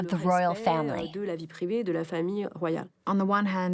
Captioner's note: speaking foreign language